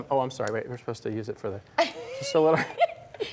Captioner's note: laughter